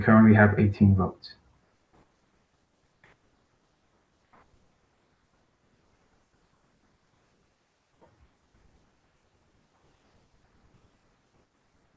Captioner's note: pause